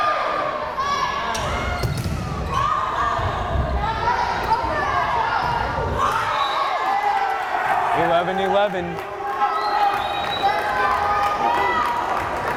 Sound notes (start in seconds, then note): 6.3 whistle blares; 9.6 crowd cheering